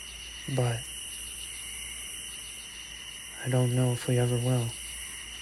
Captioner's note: insects chirping